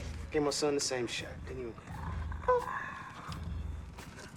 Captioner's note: winces; laughs